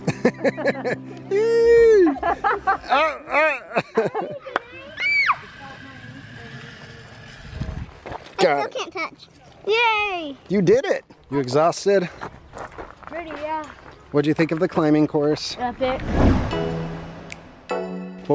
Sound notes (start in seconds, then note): 1.2 laughs; 4.7 child screams; 16.4 upbeat music